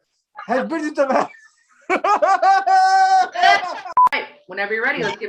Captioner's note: laughs